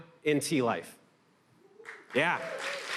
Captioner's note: applause